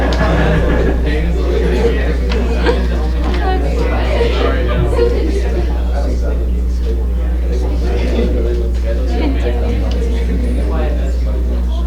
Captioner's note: crowd chatter